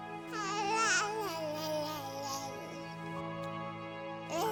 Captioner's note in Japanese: 泣き声